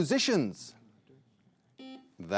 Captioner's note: buzzer buzzing